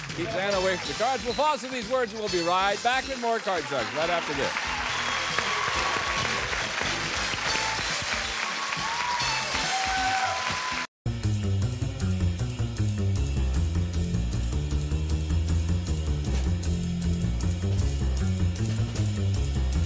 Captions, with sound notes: OK. Keep that away from the cards. We'll pause for these words, and we'll be right back with more "Card Sharks" right after this. [theme music] [applause]